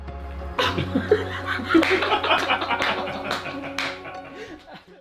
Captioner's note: producers laugh and clap